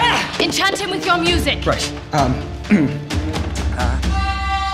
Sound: clears throat

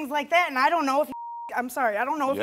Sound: beep

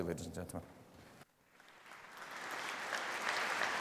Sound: applause

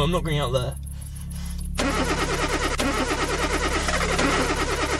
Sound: car engine squeals

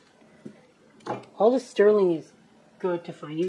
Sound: clunk

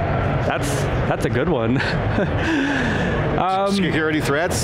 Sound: laughs

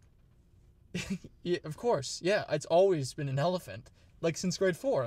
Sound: chuckles

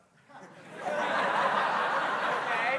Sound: congregants laughing

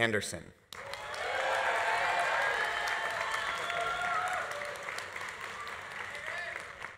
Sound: audience applauding; audience cheering

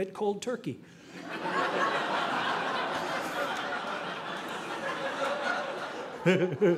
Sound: audience laughing

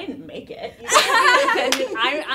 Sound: laughter

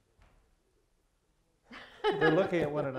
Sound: laughs

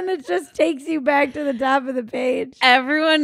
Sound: laughing

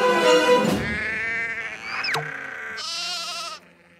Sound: sheep bleating

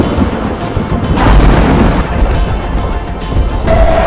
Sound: thunder; Gryffyn jumpscare SFX

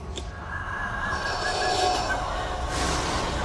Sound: raspy breathing

